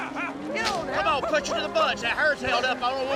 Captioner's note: cracks whip